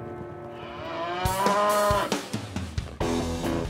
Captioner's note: mooing